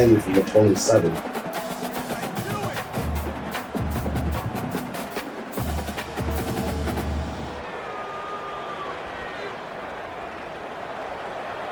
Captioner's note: crowd Noises